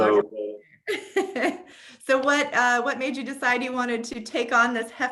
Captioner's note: laughs